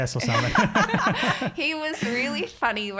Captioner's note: all laughing